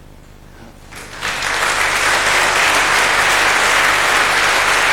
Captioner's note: public applauding